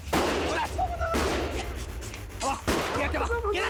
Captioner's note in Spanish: Disparos